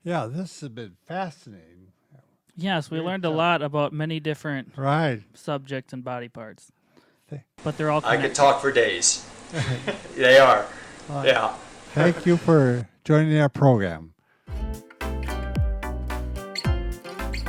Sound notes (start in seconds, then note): 9.5 men laughing; 14.5 pop music